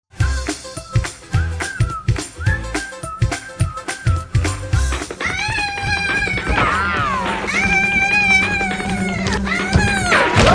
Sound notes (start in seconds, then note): 0.5 bright music; 5.2 screams; 7.6 bees buzz